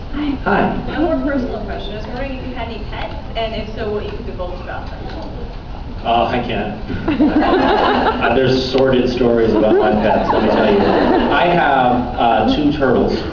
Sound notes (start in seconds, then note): 6.9 laughs